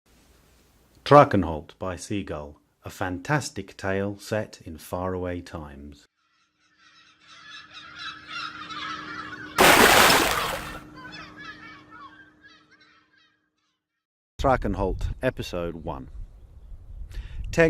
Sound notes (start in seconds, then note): 7.2 gulls Calling; 9.6 big Splash!